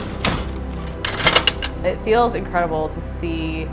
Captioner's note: latch clatters